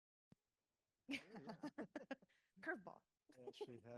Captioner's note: laughs